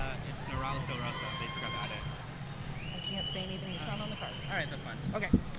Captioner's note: speaking faintly off mic